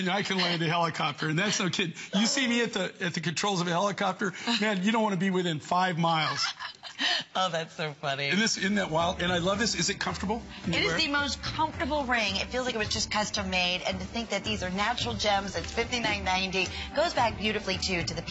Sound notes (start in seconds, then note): 10.4 laughter